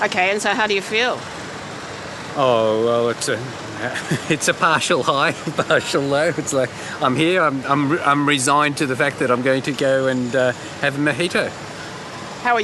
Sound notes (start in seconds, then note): 3.8 laughs